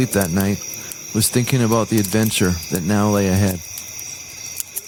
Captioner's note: crackling fire